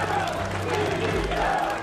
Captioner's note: crowd chanting